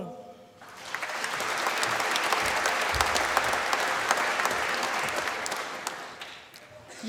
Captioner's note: applause